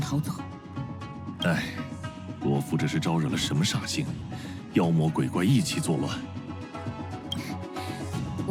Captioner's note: sigh